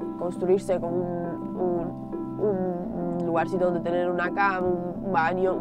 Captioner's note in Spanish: con énfasis